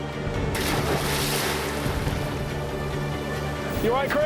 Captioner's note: intense music; water splashes